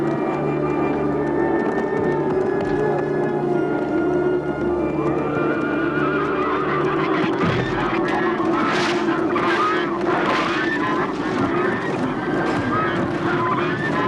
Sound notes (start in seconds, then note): 9.6 geese honking